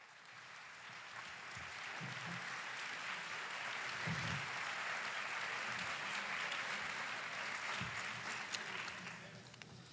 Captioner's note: applause